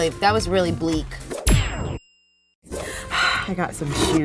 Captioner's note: ping; exhales